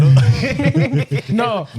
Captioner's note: laughing